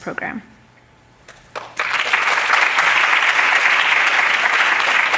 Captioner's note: audience applauding